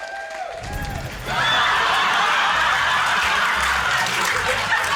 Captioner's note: rapturous laughter, applause